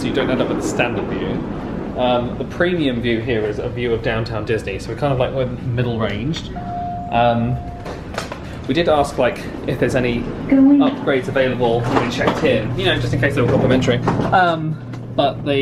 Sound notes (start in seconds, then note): 6.3 lift pings